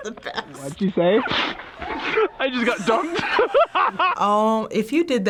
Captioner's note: laughs